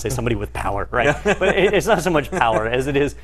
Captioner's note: laugh